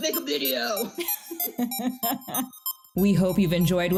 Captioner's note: laugh